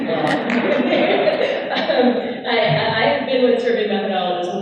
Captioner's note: laughing